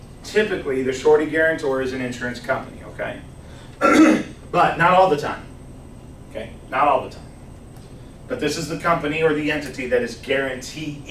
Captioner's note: clears throat